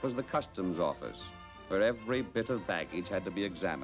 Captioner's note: none